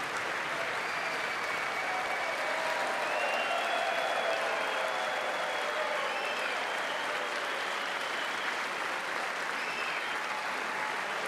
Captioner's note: applause